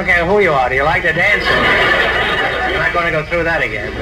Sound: audience laughs

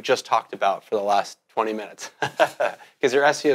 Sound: laughs

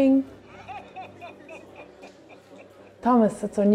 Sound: jolly laughter

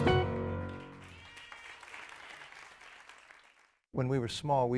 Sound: audience applauding

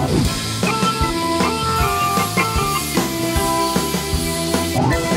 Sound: angle grinding

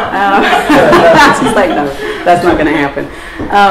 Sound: laughs

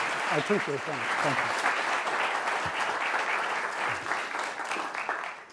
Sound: applause

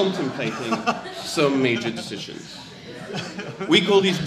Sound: audience laughs

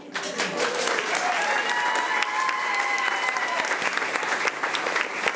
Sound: crowd cheering and clapping

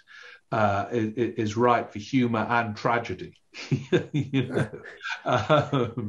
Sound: chuckles

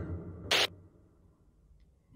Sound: static interference

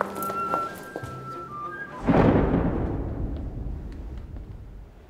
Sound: thunder rumbles

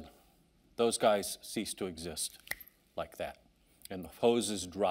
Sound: fingers snapping

